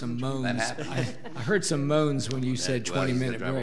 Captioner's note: audience laughing